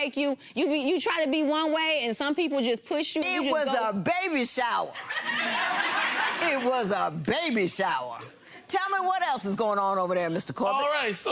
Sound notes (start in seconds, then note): 5.0 laughing